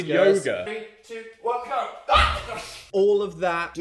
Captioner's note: screams